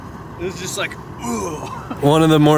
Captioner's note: laughs